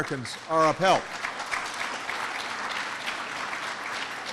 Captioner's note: applause